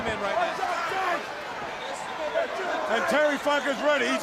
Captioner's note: crowd chatter